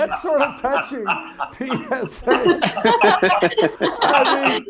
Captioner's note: laugh